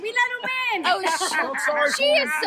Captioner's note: laughs